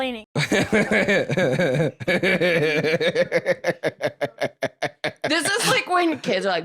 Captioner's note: laughs